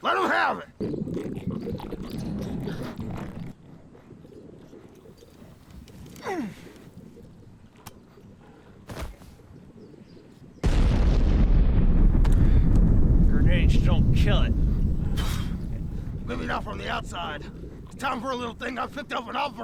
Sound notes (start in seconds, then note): 6.1 grunts; 10.6 explosion booming